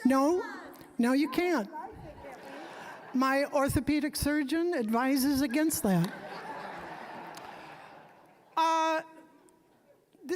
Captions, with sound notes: >> No, no, you can't. (audience chuckling) My orthopedic surgeon advises against that. (audience laughing)